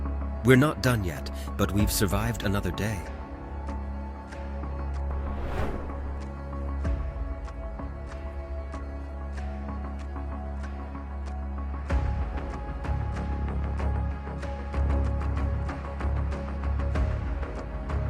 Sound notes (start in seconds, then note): 3.4 suspenseful music continues; 5.0 transition whooshing; 6.5 suspenseful music continues; 14.4 suspenseful music continues